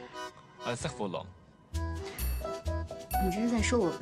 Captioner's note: French